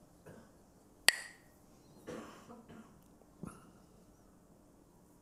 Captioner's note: Mooji clacks the sticks